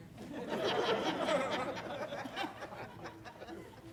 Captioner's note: audience laughs